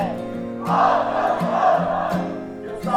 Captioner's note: murmurs